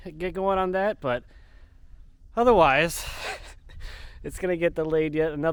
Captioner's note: chuckling